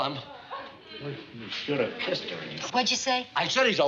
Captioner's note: whispers